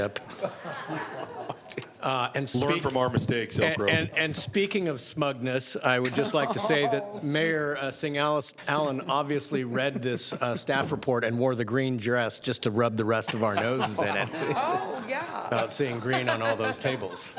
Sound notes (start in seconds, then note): 6.0 some Laughter